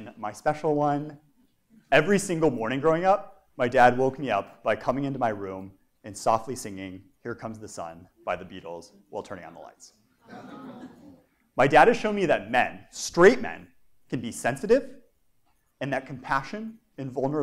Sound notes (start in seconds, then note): 10.2 laugh